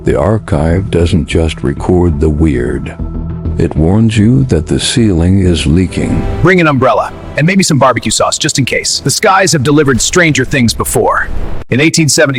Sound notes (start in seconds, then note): 6.1 sarcastic Commentary